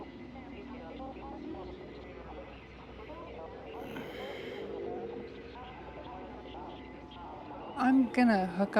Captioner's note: static and distortion on the radio